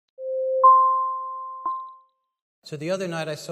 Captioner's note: ding